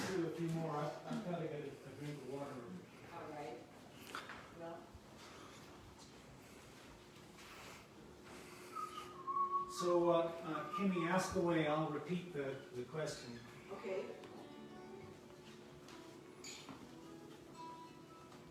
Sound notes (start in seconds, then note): 8.6 whistling; 14.0 slow music